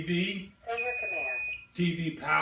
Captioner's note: beeping